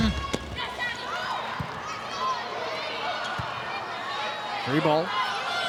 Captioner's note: players shouting indistinctly